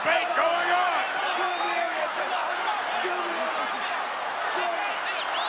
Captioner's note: all yelling